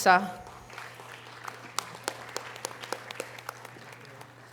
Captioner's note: audience applause